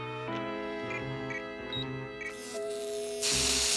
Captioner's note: beeping; tense music; crackling